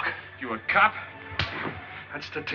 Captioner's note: slaps